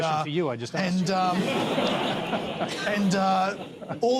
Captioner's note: laughter